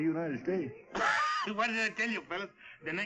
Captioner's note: laughs